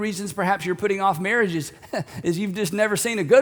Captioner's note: laughs